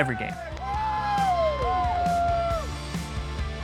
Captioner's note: crowd cheers; upbeat music continues